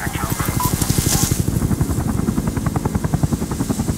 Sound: distant helicopter

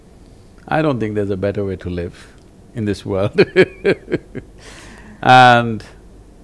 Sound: laughs

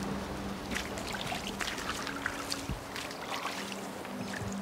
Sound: water splashing

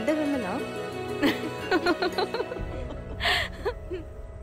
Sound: laughing

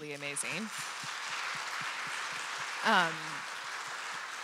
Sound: audience applauding

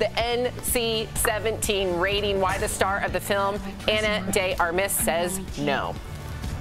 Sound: laughter

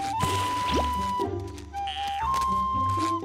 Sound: whistling

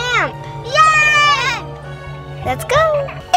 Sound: girls cheering

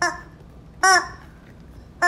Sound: squawk

